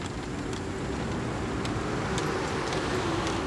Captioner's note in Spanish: ruido del motor